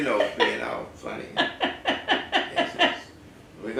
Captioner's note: laugh